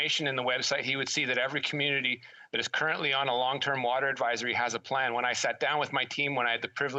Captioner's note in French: voix de l'interprète